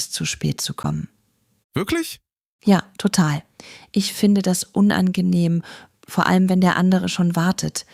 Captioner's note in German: räuspern